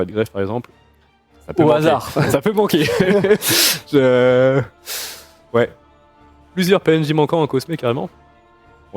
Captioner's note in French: rires